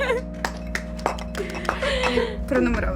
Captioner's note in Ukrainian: оплески